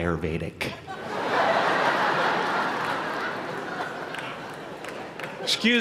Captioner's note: laughter